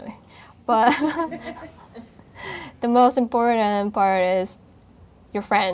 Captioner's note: laughing